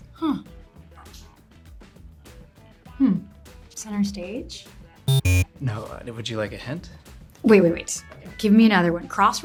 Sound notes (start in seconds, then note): 5.0 buzzer rings